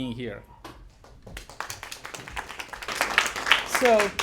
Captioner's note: applause